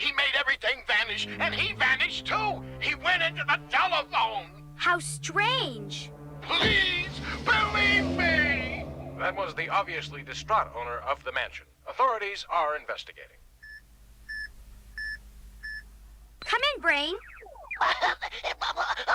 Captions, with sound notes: HE MADE EVERYTHING VANISH AND HE VANISHED TOO! HE WENT INTO THE TELEPHONE! HOW STRANGE.... PLEASE! BELIEVE ME!! THAT WAS THE OBVIOUSLY DISTRAUGHT OWNER OF THE MANSION. AUTHORITIES ARE INVESTIGATING. COME IN, BRAIN! (WHIMPERS)